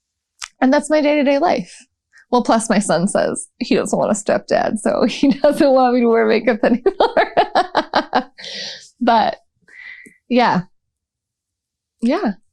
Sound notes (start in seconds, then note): 6.5 laughter